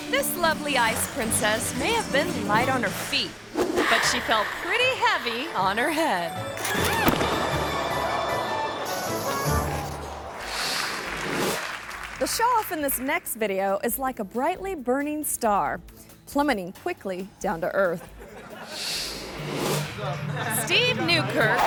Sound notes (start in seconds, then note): 6.7 skate clinks; 7.0 skater thuds; 8.4 gentle playful music; 10.7 audience clapping; 18.2 audience laughing; 20.0 laughs